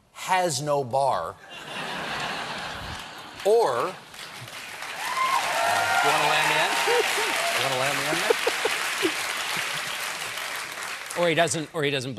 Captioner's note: applause